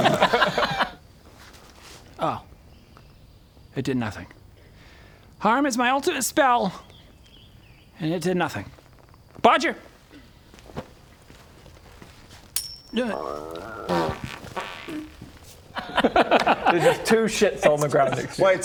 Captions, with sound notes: oh it did nothing harm is my ultimate spell and it did nothing Bodger *flick* *grrrrrr* *pfffpt* There's just two shits on the ground next to you